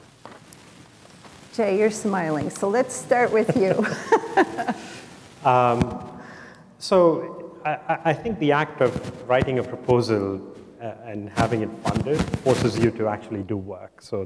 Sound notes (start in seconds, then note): 3.3 chuckles